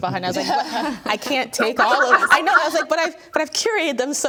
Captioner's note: everyone laughing